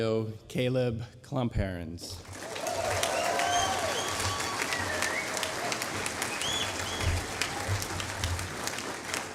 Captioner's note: applause